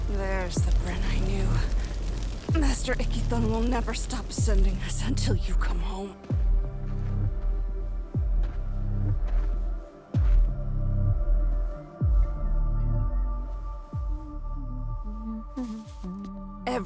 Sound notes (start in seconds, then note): 6.3 footsteps; 14.7 hums